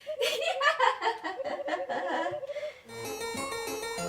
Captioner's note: mostly regal yet cruel laughter